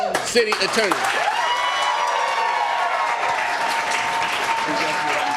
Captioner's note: cheers and applause